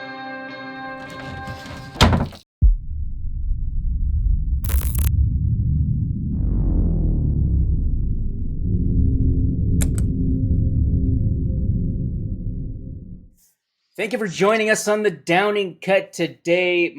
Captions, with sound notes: (static) Thank you for joining us on The Downing Cut today.